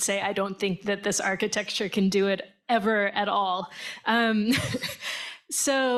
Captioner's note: chuckles